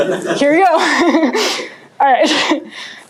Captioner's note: laughter